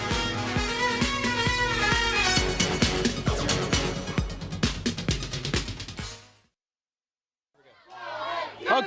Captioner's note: crowd cheering